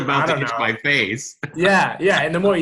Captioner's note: laughs